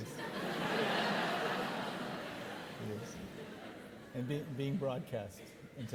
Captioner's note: audience laughing